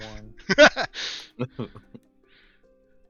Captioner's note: laughter